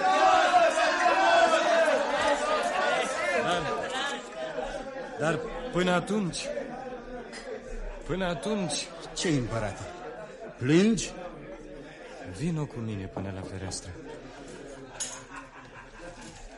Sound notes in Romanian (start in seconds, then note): 1.8 Aplauze